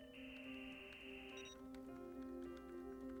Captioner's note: modem Buzzing; electronic Beep